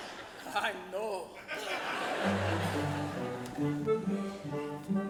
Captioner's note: audience laughs